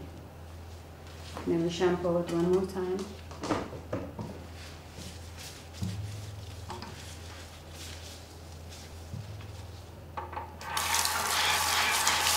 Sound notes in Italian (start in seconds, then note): 1.3 Applauso